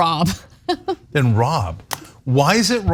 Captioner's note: laugh